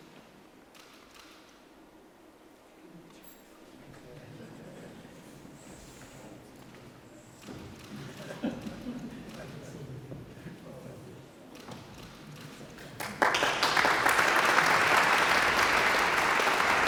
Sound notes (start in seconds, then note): 7.9 audience chuckles; 12.8 audience applauds